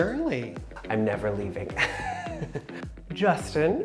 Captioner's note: laughs